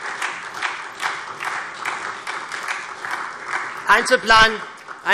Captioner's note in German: Beifall SPD